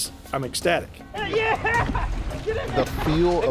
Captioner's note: yelling